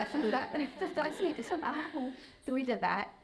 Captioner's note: audience laughing